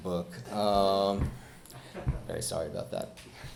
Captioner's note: chuckles